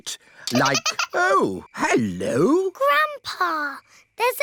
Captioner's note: giggling